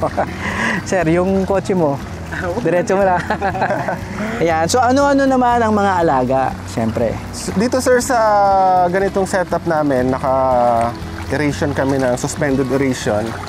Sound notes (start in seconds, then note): 3.0 laughs